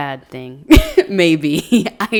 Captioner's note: chuckles